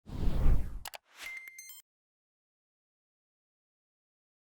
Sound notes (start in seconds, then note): 0.1 logo swooshing